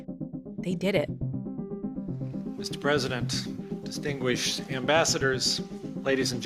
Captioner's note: soundbite of archived recording